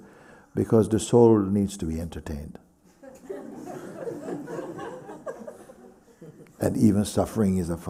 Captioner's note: laughter